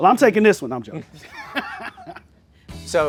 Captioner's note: laughs; chuckles